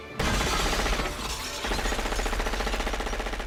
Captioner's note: gunfire, glass shattering